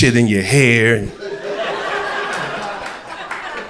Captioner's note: crowd laughter